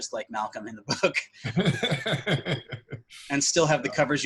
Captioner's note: laughs